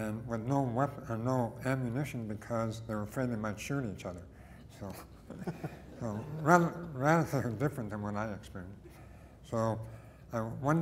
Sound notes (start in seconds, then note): 5.2 laughter